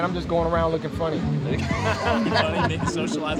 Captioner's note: laughter